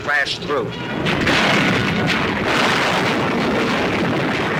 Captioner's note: bombs exploding